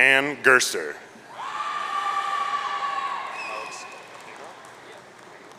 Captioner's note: audience cheering